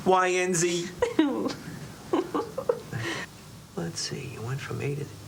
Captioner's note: Lulu giggles